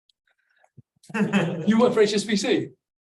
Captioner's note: audience laughs